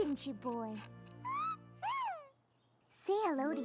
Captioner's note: chirps